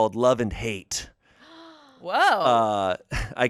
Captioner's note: gasps